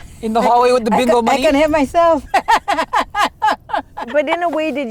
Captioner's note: laughs